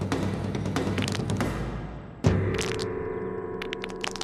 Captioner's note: knuckles crack